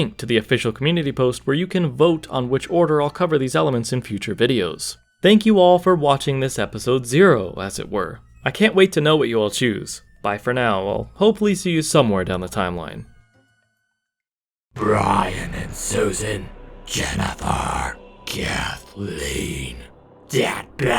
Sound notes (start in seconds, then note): 13.0 In a Mummy Ganondorf voice